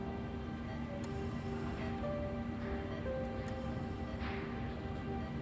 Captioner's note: hospital machines beep